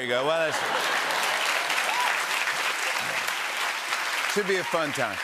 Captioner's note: cheers and applause